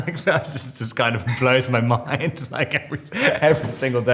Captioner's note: Robert laughing; Robert laughs